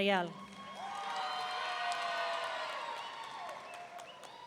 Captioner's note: audience cheering